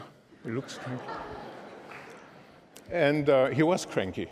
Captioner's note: laughter